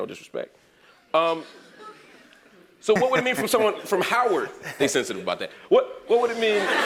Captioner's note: laugh